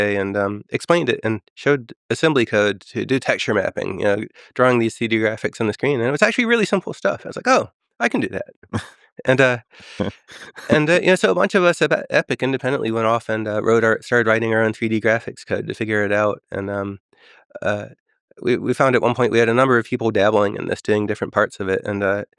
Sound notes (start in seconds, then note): 9.2 laughs